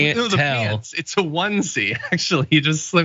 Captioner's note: laugh